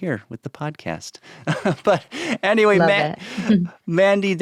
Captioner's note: chuckles